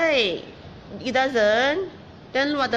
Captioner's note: speaking in foreign language